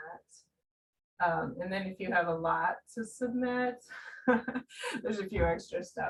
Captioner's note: laughing